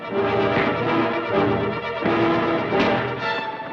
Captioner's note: thud